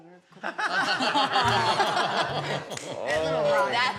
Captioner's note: everybody laughing